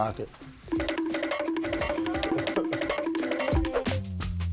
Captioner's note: cartoon running sound; rnB music